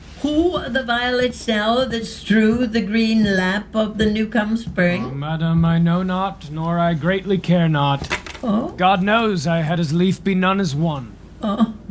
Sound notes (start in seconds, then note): 8.0 keys tossed down